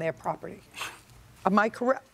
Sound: exhales sharply

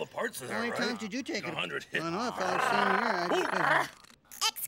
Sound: growling

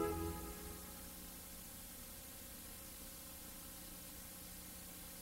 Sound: VHS static

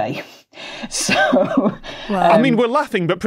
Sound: laughs

